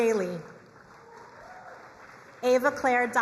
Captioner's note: crowd applauding